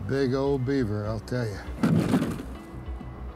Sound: thuds

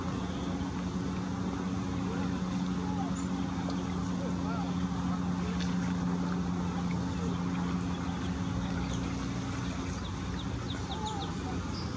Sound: birds chirping

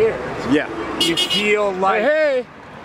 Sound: car horn beeps

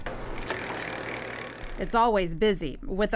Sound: wheel ticking

